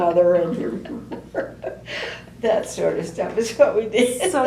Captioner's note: laughter